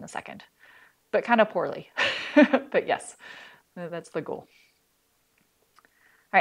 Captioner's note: laughter